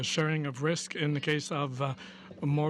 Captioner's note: speaking french